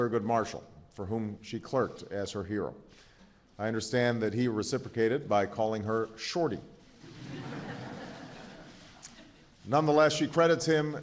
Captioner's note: laughter